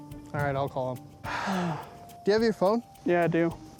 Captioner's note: sighs